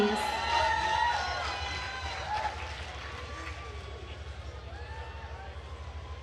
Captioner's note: attendees cheering and applauding